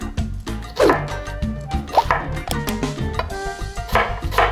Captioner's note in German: Messer hacken